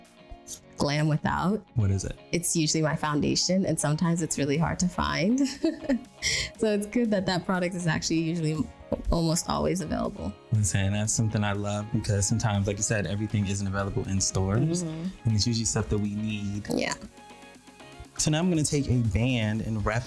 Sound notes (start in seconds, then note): 5.3 chuckles